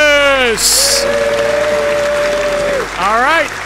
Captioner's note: audience cheers